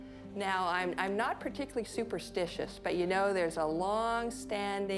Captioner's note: none